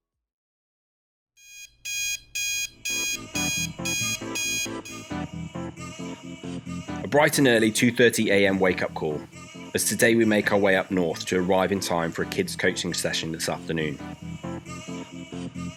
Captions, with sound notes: [alarm clock buzz] A bright and early 2:30am wake up call as today we make our way up north to arrive in time for kids coaching session this afternoon.